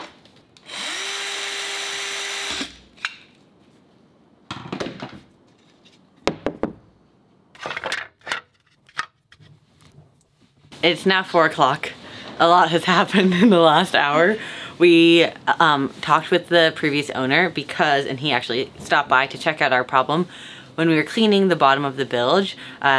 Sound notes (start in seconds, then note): 0.6 electric saw engine roaring; 6.2 thud